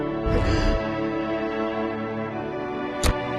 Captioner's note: gasping